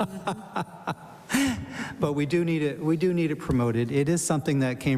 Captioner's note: laughter